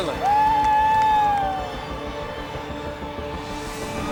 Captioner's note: crowd cheering